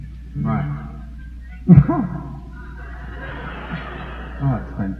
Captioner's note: laughs